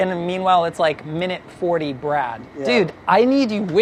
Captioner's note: none